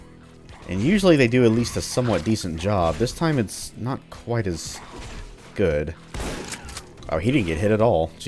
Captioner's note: shotgun blast